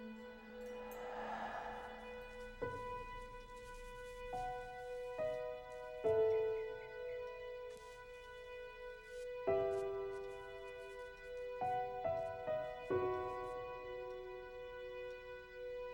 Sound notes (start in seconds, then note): 0.7 person exhales